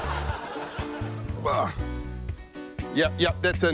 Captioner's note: chuckles; grunts